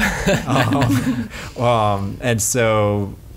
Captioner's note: laughs